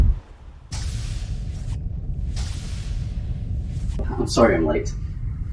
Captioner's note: door opens and closes